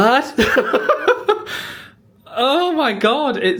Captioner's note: laughing